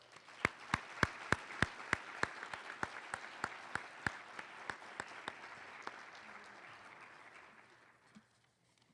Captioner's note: applause